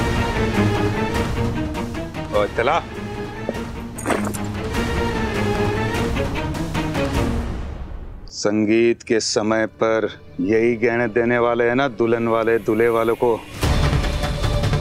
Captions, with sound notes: Give this to me. [thump] Aren't these the ornaments that the bride's family will give to the groom's family at the Sangeet party? [tense music playing]